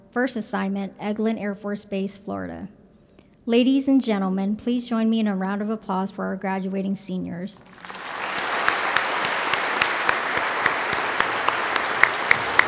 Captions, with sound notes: First assignment, Eglin Air Force Base, Florida. Ladies and gentlemen, please join me in a round of applause for our graduating seniors. (audience claps)